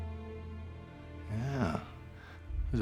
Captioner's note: scottish accent